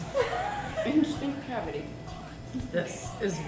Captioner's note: laughing